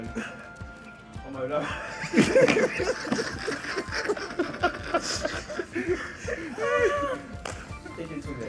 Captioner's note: everyone laughs